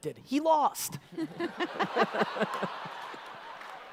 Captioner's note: audience laughter